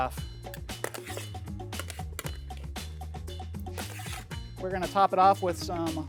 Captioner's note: pan scraping